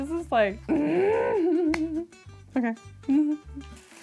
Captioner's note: grunting; upbeat music